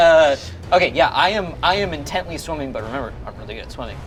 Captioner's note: none